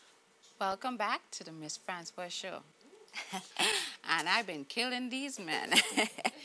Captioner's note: laughs